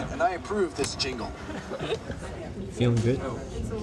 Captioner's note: laughter